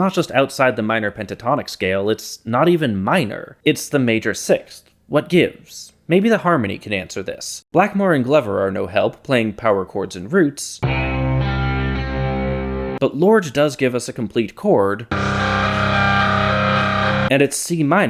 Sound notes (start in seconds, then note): 11.8 bang